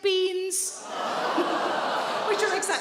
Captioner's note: audience groaning